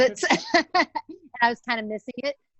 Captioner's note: laughter